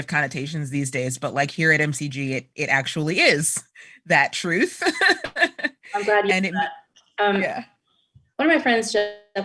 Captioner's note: laughter